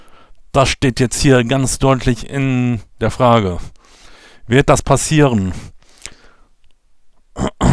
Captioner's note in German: husten